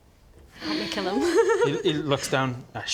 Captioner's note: bloodthirsty giggle